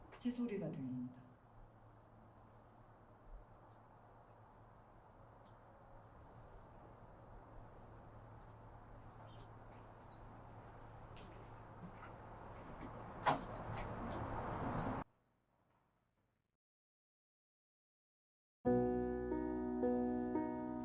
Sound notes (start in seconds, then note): 9.9 bird Chirping; 13.2 door Sound